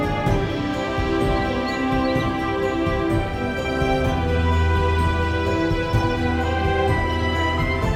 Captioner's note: drone